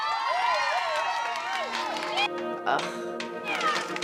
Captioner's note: audience applauding; audience cheering